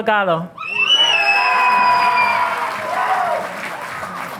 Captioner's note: audience applauding